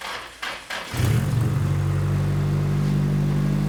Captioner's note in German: Motor rattert, rattert; Motor springt an, kein klappern